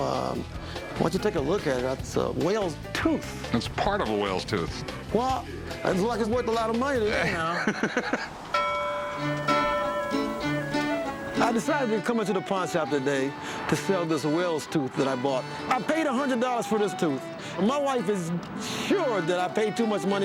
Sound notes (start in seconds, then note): 7.2 laughs; 8.5 ding